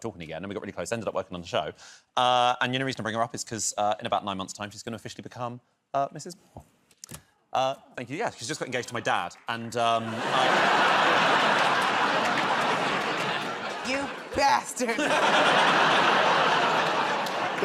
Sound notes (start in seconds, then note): 9.8 laughter